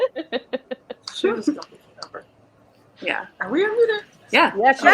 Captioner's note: laughing; mutters